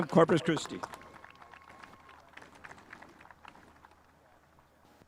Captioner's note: spectators applauding